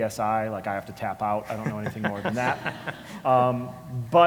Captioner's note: laugh